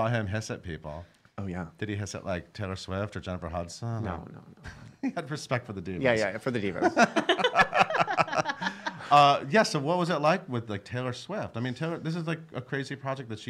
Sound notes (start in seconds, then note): 6.9 laughing